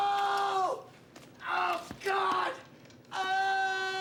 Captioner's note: screaming; screaming